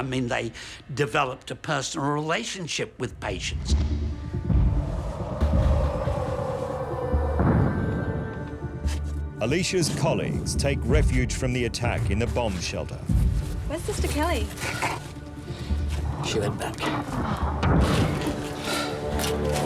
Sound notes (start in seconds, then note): 4.4 ominous music; 7.4 explosion; 17.4 explosion; 17.4 tense music